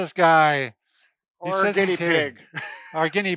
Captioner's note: laughs